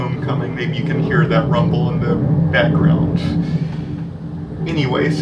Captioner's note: noise of a Navy jet flying overhead